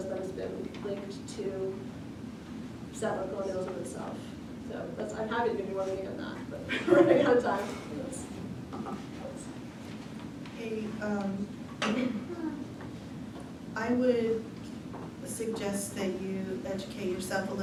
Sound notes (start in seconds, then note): 6.7 laughter